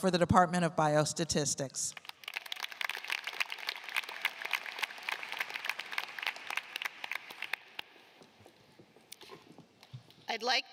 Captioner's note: applause